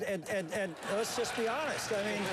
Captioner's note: laughter; applause